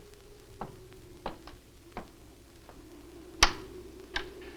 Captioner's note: shoes clacking